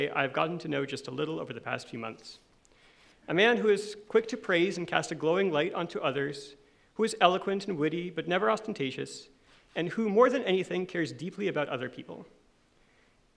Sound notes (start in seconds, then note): none